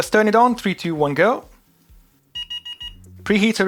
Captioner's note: beeping